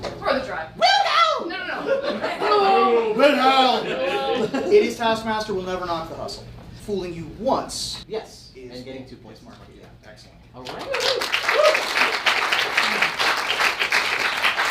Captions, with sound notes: - Worth a try. - WILHELM! - No, no, no. (lower pitch) WILHELM! -WILHELM! - At least Taskmaster will never knock the hustle. - Fooling you once. - Yes. - And getting two points to Markeia. - Yeah. - Excellent. (audience applauds)